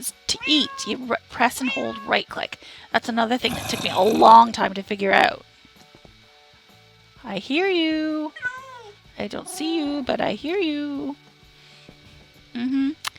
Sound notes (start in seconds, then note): 6.2 zombie growls loudly